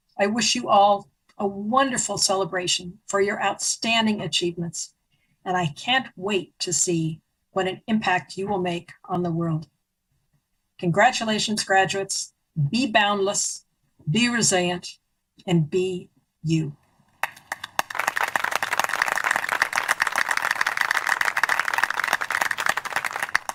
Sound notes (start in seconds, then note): 17.2 applause